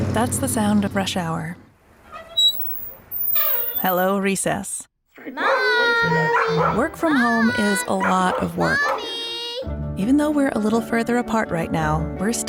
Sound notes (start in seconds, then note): 0.0 engine rumbles; 2.0 squeak; 5.4 barking